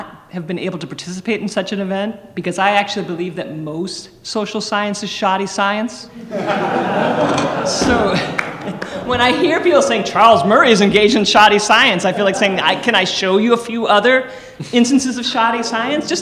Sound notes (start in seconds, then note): 6.2 audience laughing